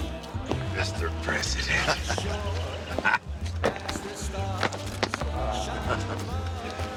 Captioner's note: chuckles; Stanz chuckles